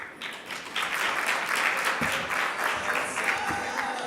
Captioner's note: audience clapping